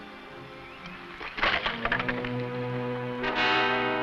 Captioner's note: boot smashing; suspenseful music